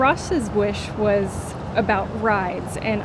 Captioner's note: imitating parrot voice